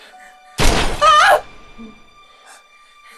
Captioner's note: distant thud; Kathryn screams